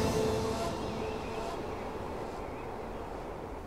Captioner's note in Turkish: Kuş cıvıltısı sesleri